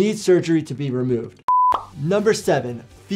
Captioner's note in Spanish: pantalla pitando